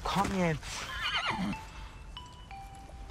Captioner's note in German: Wiehern